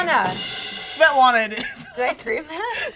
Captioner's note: laughs